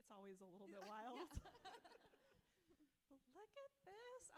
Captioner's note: both laughing